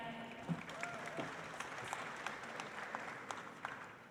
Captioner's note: audience applauds